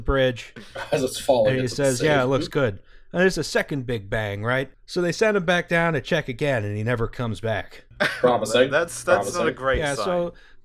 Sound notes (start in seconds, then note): 8.0 laughter